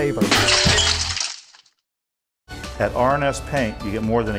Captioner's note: shattering glass